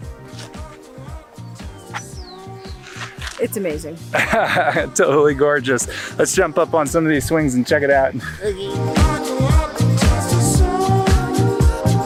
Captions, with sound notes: It's amazing. (laughing) - Totally gorgeous, let's jump up on some of these swings and check it out. - Okay. (upbeat music)